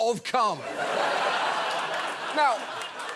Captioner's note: audience laughs